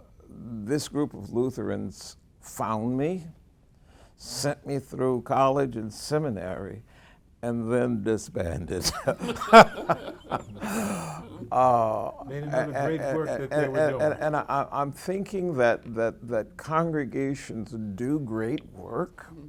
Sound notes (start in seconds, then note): 8.8 laughing